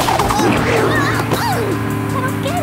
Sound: gasps

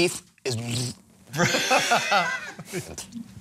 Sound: struggles to speak; laughter

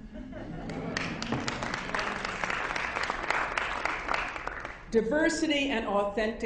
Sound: audience applause

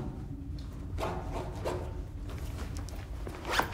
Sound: unzipping

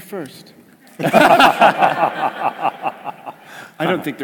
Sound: laugh

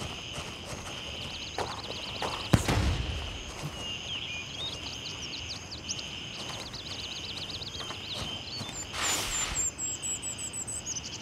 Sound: birds chirping

